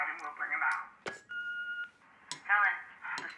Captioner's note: machine beeping